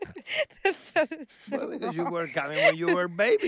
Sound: daughters giggling; giggling

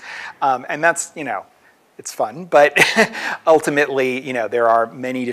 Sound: laughs

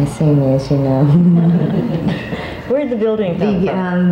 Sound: all chuckling

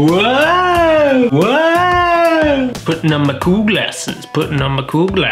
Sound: woo sounds

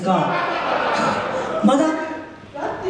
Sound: laughs

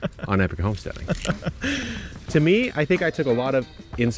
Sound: laughing

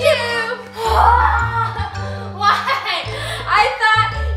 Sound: screams

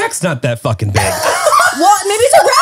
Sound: everyone laughs

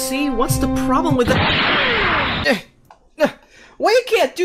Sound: flick

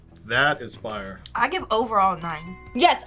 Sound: bell chimes

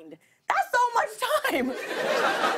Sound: laughter

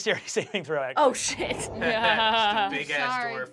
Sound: Kristen laughs

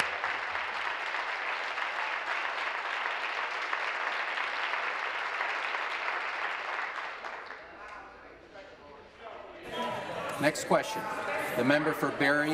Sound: applause

